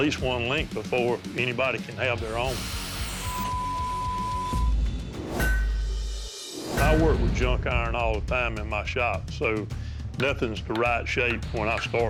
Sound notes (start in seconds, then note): 2.3 buzzing; 2.3 high-pitched whine; 5.4 clanks